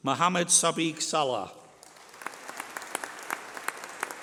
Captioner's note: applause